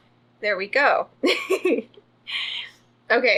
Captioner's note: laughs